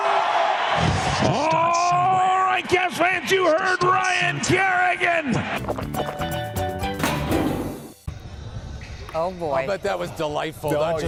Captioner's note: cheering